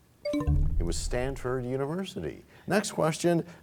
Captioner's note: bell chimes, time expires